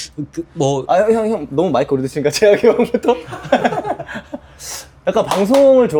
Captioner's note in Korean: 웃음